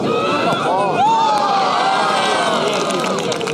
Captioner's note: cheering